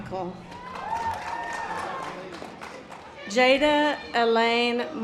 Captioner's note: audience applause